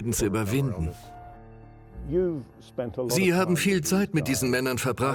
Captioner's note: voiceover